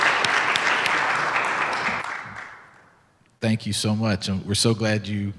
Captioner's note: clapping